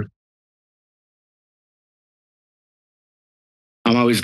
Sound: silence

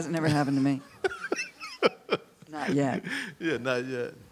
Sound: laughs

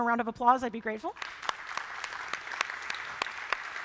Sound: applause

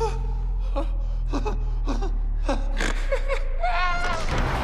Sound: laughing

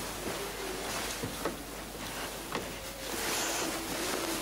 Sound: dog howling

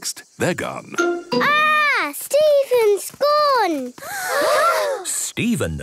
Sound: gasps

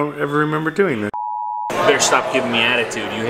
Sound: high-pitched tone

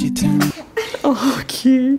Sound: baby sneezes

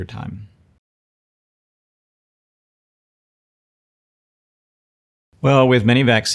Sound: silence

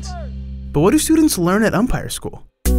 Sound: voiceover

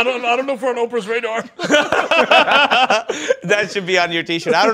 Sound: laughter

